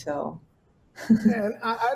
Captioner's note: laughs